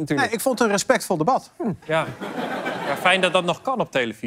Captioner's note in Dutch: gelach